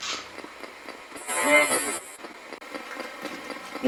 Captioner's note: buzzing